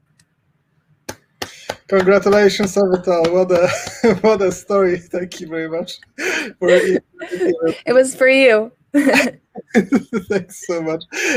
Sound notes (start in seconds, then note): 1.0 claps; 9.0 laughs; 9.2 chuckles